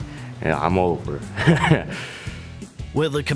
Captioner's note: chuckles